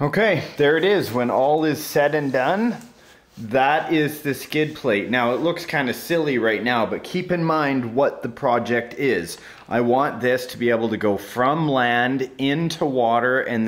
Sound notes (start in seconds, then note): none